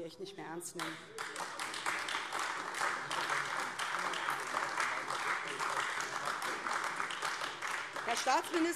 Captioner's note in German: Beifall AfD